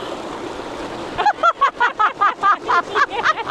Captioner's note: laughing because it's so cold